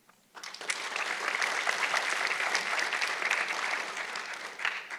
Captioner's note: audience clapping